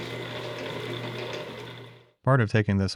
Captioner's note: shaper whirring